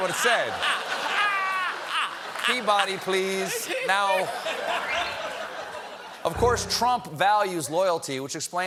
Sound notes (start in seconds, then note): 2.8 laughter